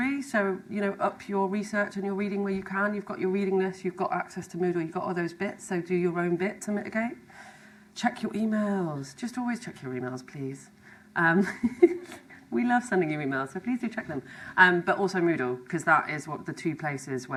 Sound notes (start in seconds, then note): 11.4 laughs